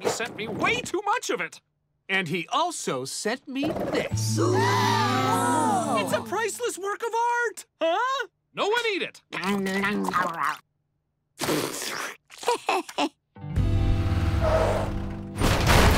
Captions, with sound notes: But he sent me way too much of it! And he also sent me this. [gasping] Whoa! It's a priceless work of art! Huh? No one eat it. [laughs awkwardly]